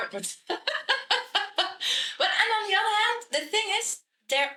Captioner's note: laughs